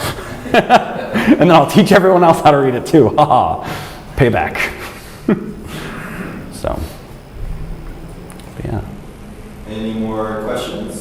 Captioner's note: chuckles